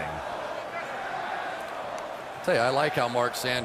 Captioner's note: chanting